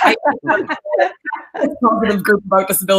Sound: laughing

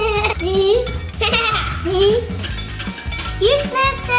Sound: laughing

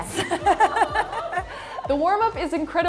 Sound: everyone laughs

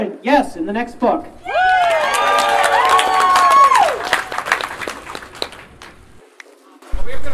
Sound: audience Cheering and Clapping

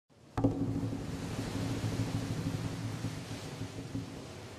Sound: ocean waves splashing

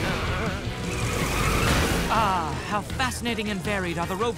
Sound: tires screeching

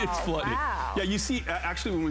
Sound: laughter

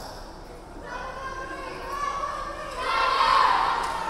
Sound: players chanting

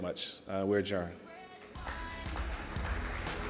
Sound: audience applauding

